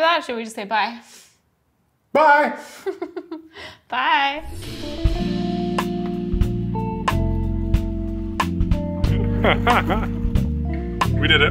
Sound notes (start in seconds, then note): 2.7 laughs; 4.5 casual downtempo music; 9.0 laughing